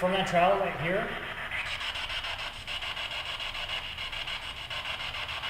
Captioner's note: static buzzing